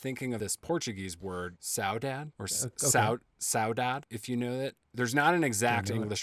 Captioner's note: speaking Portuguese